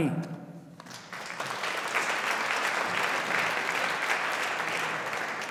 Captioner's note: audience applauding